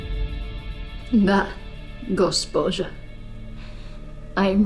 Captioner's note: slow music continues; Anya speaking in foreign language